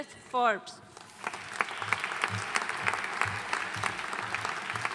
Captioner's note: audience applauding